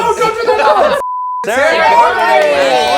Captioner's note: beep